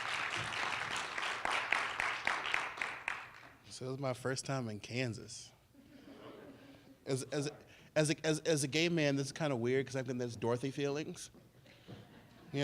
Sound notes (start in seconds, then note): 3.0 applause